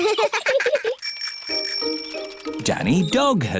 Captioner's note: both laugh; bicycle bell rings